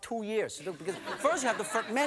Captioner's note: audience laughing